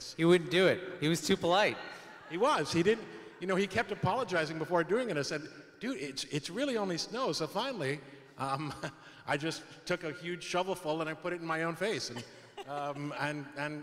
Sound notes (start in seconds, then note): 1.9 some laughing; 8.5 chuckles; 12.1 laughing